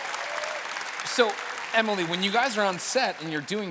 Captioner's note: cheers and applause